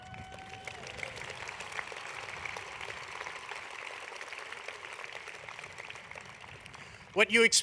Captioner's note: applause